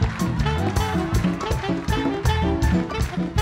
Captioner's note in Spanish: Ovación